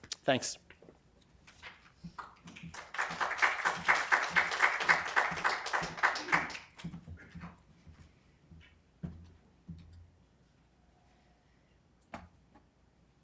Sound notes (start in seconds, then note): 2.1 applause